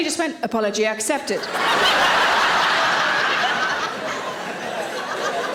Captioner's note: audience laughing